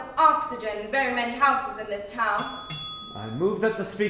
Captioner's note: bells rings